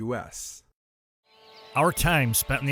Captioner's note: birds chirping